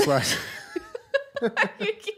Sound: laughter

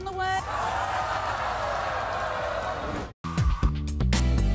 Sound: audience yells

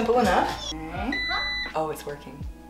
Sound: beep

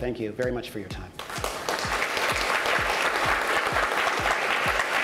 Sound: applause

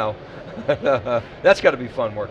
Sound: laughs

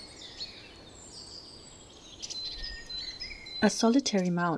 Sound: birds chirping

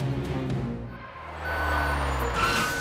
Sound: beeping

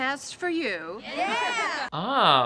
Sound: laughter

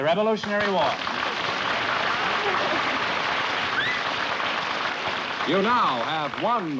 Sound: applause

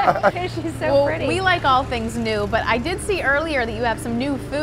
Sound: laughter

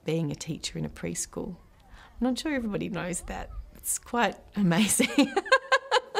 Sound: laughs

